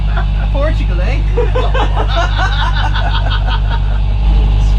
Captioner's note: laughter